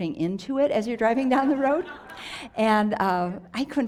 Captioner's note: audience laughs